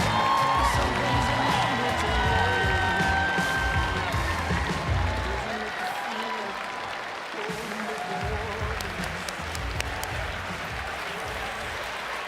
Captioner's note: cheering and applause